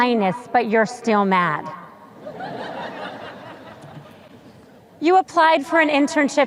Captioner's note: sparse laughter